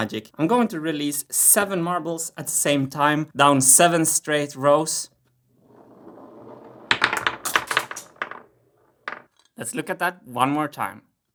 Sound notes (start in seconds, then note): 5.6 marbles rolling; 5.9 marbles clicks